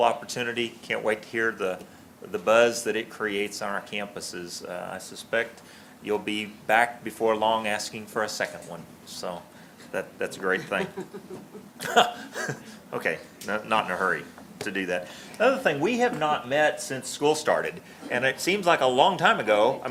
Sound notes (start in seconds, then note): 10.5 laughter; 10.5 laughs